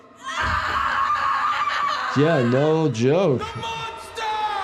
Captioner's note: audience member screams